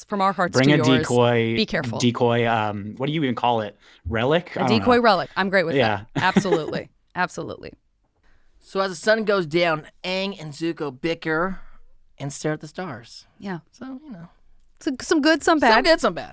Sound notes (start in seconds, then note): 5.7 chuckling